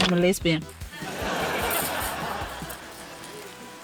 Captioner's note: laughter